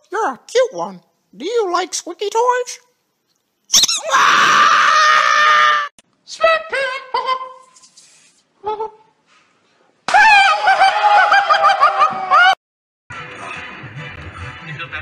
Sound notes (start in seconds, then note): 3.8 screaming